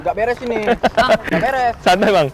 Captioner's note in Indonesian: ketawa